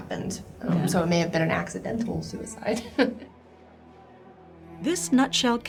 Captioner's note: laughs